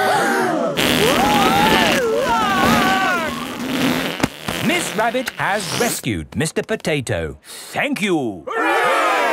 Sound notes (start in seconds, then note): 0.0 both screaming; 0.9 crowd gasps; 2.0 screaming